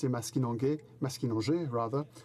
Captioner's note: speaking French